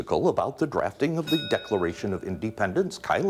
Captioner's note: bell dings